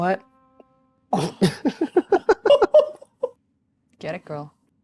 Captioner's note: players giggling